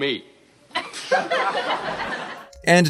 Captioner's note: laughter